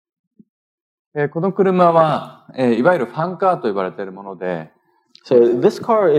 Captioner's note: speaking japanese